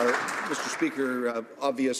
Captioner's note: some Applause